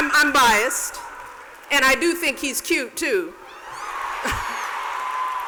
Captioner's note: cheers and applause; laughs